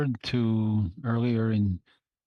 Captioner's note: speaking French